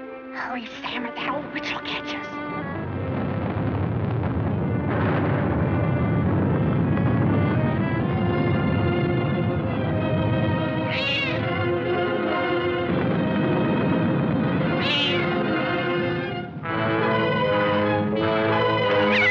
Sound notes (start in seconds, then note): 9.9 meows; 19.0 cat screeching